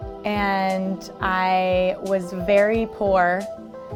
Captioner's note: none